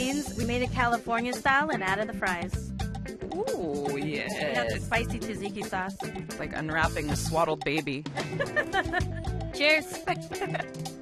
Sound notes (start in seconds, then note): 8.1 laughs